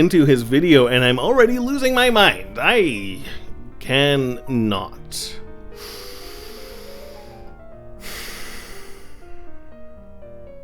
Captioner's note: deep breaths